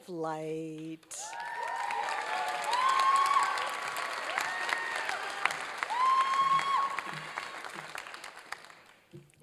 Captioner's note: applause and cheering